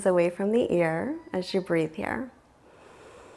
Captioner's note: inhales